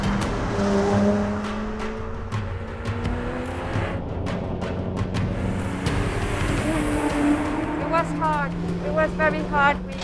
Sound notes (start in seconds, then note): 1.9 engine roaring